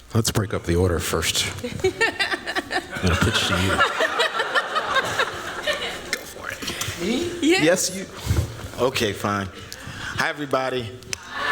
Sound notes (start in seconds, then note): 1.6 laughter